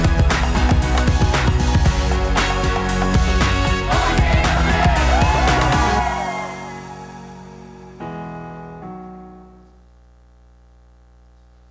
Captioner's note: applause